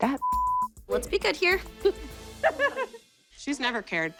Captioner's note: laughs